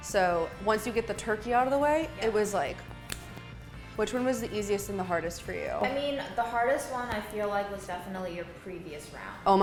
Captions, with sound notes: So once you get the turkey out of the way it was like (claps hands). Which one was the easiest and the hardest for you? - I mean the hardest one I feel like was definitely your previous round.